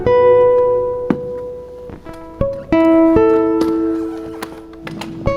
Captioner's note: objects clunking